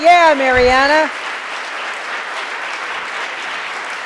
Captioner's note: audience applauding